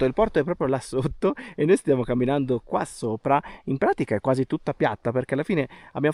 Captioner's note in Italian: risate